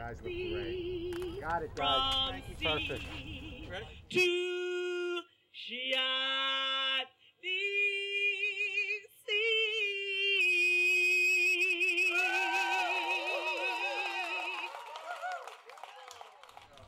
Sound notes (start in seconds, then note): 12.1 applause